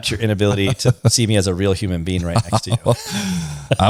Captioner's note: laughs